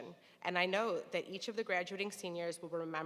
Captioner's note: none